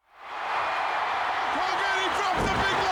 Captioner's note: crowd cheering